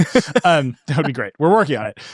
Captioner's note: laughing